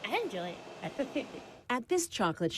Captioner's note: laughs